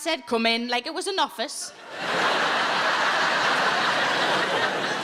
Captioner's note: audience laughing